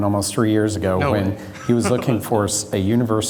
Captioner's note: laughter